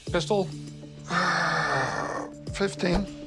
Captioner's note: sighs